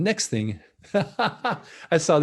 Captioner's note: laughs